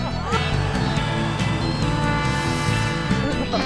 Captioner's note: laughing; snowmobile engine